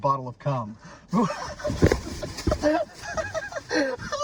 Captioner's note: both laugh